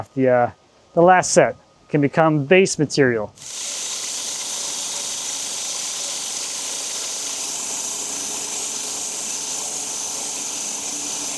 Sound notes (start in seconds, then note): 3.3 saw buzzing